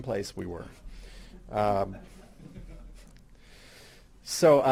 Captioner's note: audience laughing